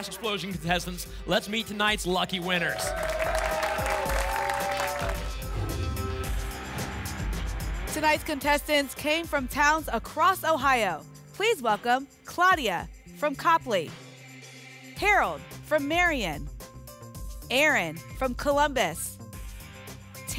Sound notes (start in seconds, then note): 2.5 applause and cheering; 5.5 whoosh